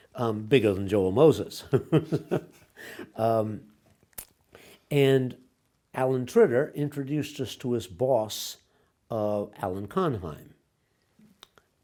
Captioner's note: laughs